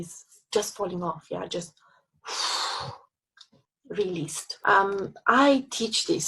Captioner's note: exhales